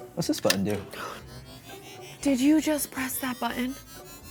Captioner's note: gasps!